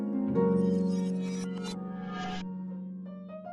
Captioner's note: time Machine sound effect